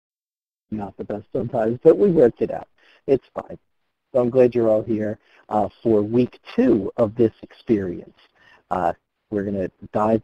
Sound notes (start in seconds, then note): 0.3 voiceover